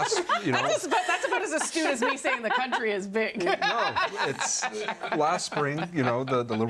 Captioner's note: laughter